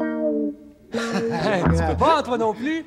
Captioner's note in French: rires